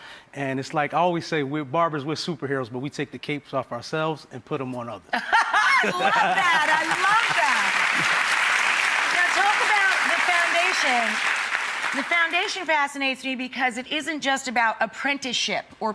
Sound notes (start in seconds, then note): 5.2 laughing; 7.9 clapping